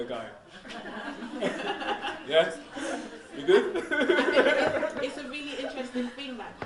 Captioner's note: laughs